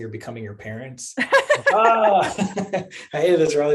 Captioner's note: laughter